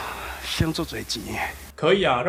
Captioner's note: Taiwanese